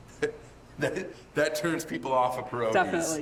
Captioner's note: laughing